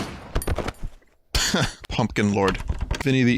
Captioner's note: laughs